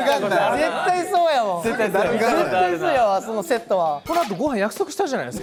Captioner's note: laughs